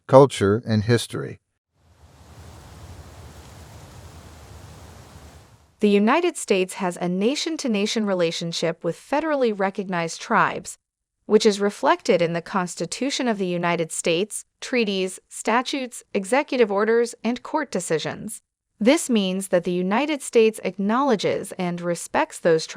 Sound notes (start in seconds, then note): 1.8 wind